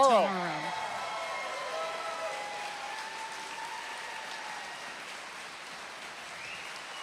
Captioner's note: applause and cheering